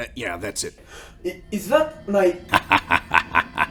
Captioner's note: gasp